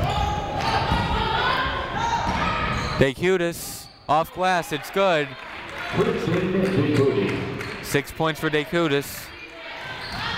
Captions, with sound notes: (people shouting in the crowd) D'Chiutiis, off glass. It's good. (muffled voice speaking over speaker) Six points for D'Chiutiis.